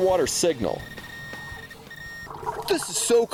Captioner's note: beeping